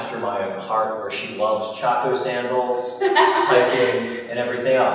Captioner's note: laughter